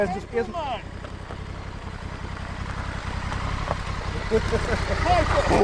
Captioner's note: motorcycle engine droning